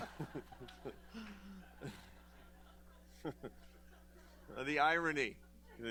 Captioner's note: laughter